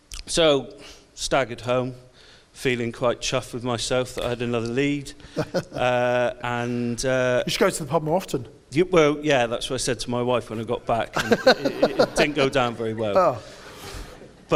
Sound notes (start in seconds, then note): 5.2 laughs; 11.1 audience laughs